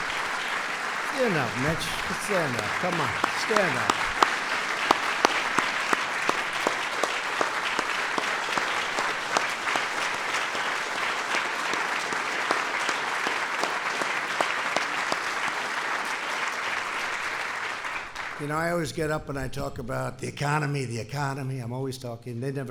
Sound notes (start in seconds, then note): 16.3 applause